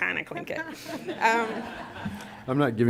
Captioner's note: laughter